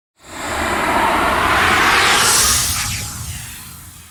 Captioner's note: air whooshing